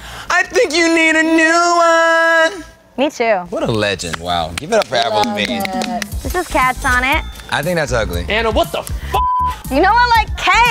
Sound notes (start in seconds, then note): 4.6 applause